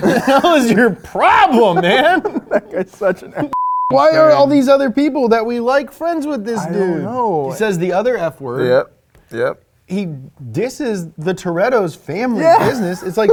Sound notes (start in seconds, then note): 0.0 laughs; 3.5 beep